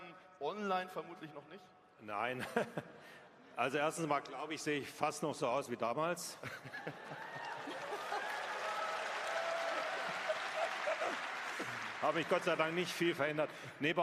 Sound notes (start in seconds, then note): 2.4 laughs; 6.7 applause